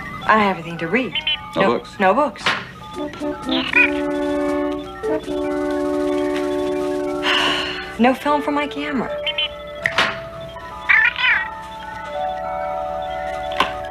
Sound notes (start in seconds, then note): 7.2 sighs; 9.8 Steve Trevor snaps his Fingers